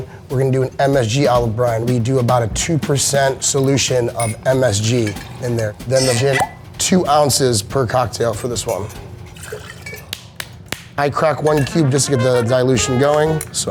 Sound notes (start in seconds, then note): 6.0 cork pops; 8.1 spirits trickle; 9.6 ice cracking